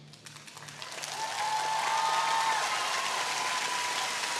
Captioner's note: audience cheering